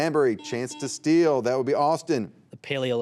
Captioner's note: buzzer beeping